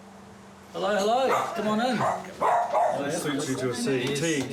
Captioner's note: dog barks